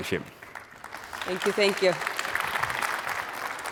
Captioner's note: applause